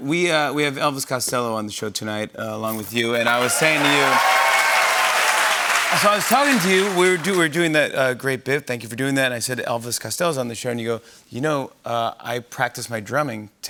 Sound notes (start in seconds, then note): 2.8 cheers and applause